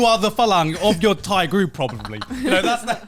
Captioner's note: hosts laugh